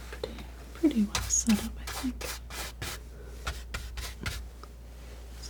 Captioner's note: scratching